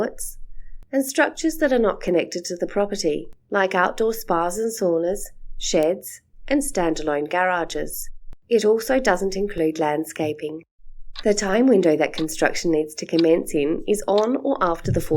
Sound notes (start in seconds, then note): 11.1 sound of clock ticking